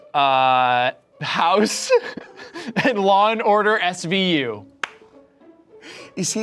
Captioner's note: laughs